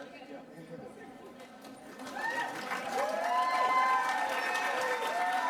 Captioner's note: applause